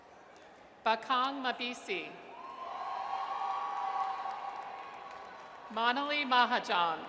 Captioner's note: audience cheers